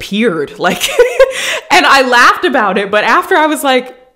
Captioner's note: laughing